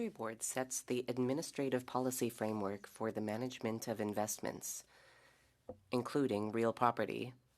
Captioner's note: speaking French